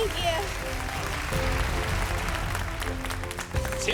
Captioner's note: applause